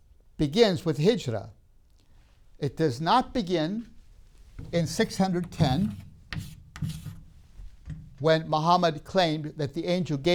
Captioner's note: chalk sounds